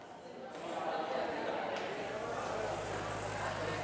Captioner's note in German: Hallendes Stimmengewirr